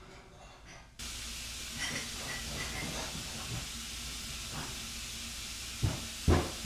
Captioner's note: water hissing; clattering